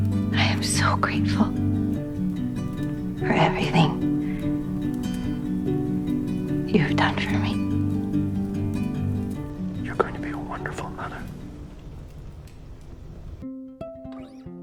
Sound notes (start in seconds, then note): 9.9 whispering